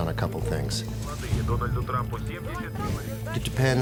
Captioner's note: people speaking Russian